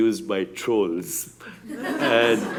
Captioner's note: laughter